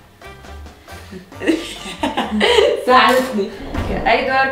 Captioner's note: laughs